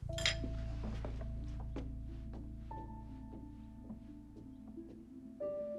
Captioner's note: footstep